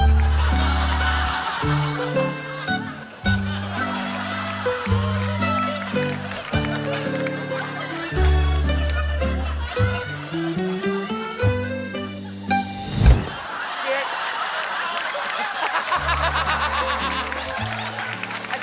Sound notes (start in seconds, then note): 1.0 laughter; 15.6 laughs